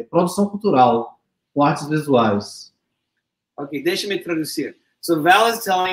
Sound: speaks portuguese

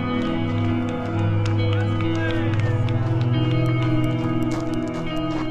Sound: crowd cheering and applauding

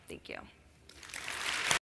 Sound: applause

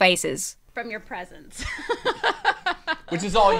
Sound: laughs

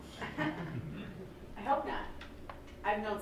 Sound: laughing

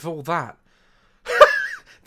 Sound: laughs

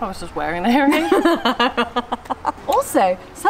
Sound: laughs

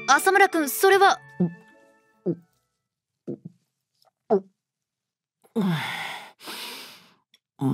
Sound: gulp gulp gulp gulp gulp

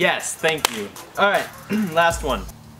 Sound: claps

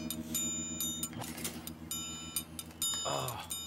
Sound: electric buzz

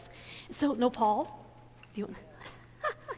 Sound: laughs

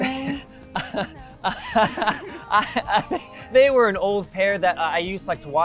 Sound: laughs

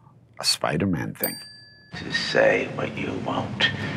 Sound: bell dinging

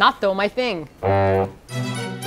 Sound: fail sound

